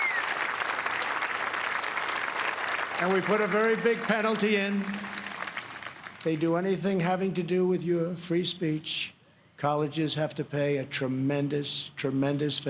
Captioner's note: applause